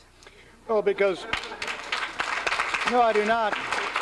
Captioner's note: applause